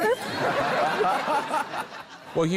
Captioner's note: laughter